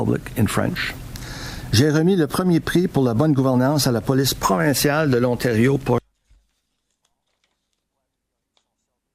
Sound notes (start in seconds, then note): 1.3 ombudsman speaking in French; 6.5 no audio